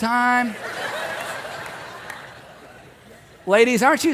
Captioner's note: audience laughing